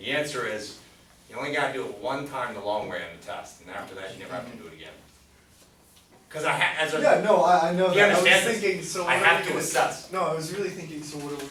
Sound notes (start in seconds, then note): 7.4 voiceover; 11.3 voiceover